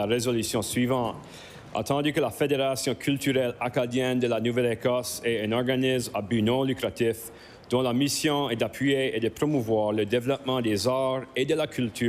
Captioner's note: speaking french